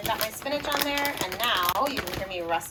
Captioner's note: plastic crinkling